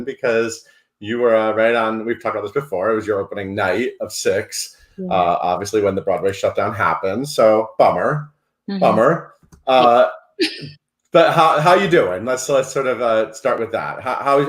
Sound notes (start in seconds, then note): 10.4 laughs